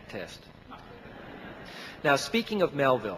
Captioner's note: audience laughing